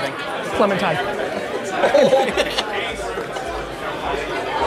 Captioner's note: laughing